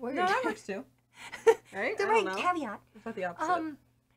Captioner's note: laughing